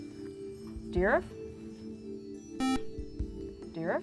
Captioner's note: buzzer